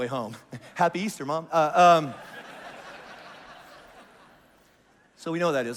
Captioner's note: congregation laughs